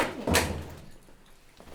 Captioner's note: door closes